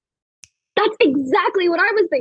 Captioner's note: kayla snaps fingers